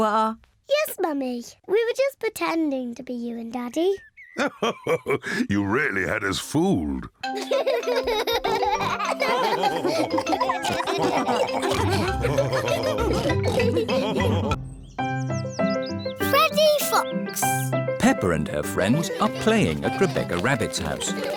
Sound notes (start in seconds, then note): 3.5 laughs; 7.3 all laughing